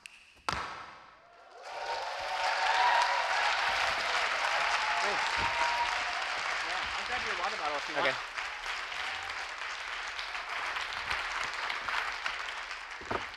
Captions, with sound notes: (fingers snapping) (audience cheering) Thanks. - Okay.